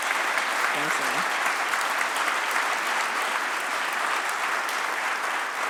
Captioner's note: applause